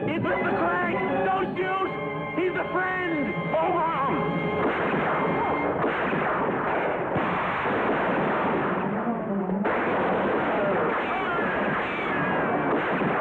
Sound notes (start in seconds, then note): 4.5 gunfire; 4.6 gunshot; 5.7 dramatic music